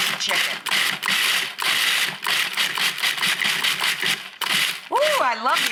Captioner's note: food processor grinding